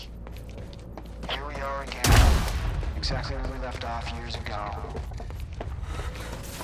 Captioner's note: on comms, confronting Beth; breathing heavily